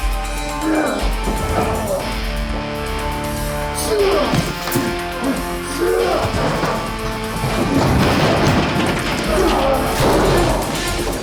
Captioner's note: both grunting